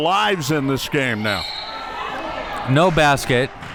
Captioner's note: whistle blows